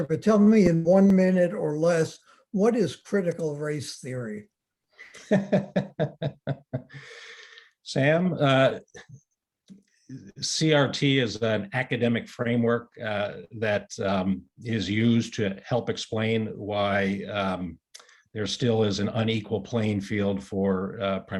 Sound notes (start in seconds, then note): 7.7 laughs